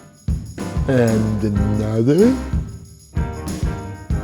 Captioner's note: drunken voice